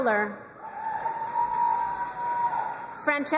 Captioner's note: crowd cheering and applauding